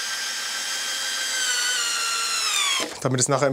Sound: high whirring

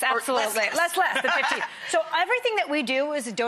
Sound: laughing

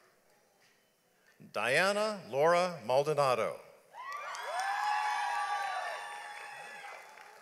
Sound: audience applauds

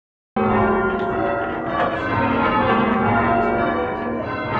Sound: bells ringing

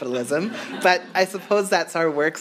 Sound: audience laughs

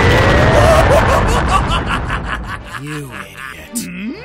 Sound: laughing manically

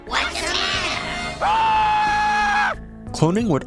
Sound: screaming

